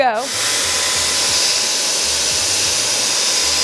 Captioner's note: machine whirling